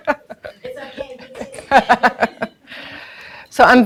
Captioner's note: laughing drowns out speaker; audience laughing